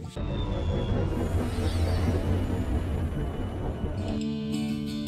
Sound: whimsical music; engine thrusters warbling

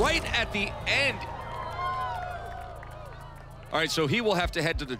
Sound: crowd "Ohh"s

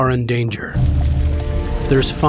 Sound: flames crackling

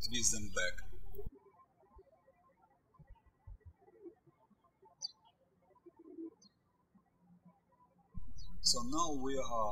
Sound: birds chirping

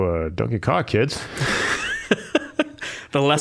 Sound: both laughing

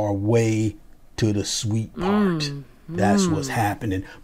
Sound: voices

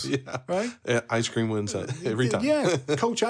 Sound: laughs

